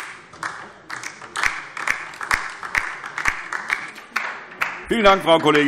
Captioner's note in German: Beifall DIE LINKE